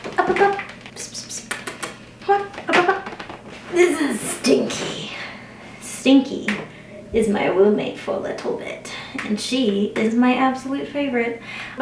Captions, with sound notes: C’mon! Up up up! Pss psspss *cat noises continue* This is Stinky. Stinky is my roommate for a little bit, and she is my absolute favorite,